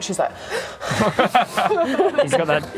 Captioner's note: nervous quivers